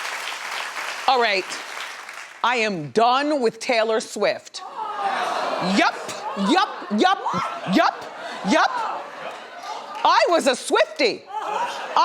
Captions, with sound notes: All right, I am done with Taylor Swift. (audience booing) Yep, yep, yep, yep. I was a Swifty.